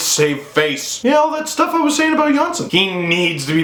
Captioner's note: high pitched voice